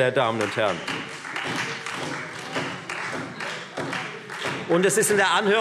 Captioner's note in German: Beifall Freie Demokraten und vereinzelt SPD